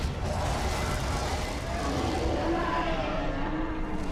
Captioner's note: monster growling